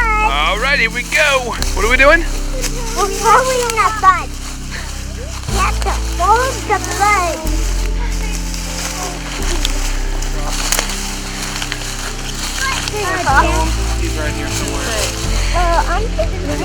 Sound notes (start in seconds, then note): 5.0 sound of walking